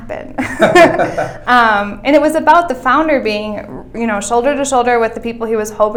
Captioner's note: laughter